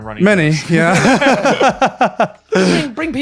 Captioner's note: laughing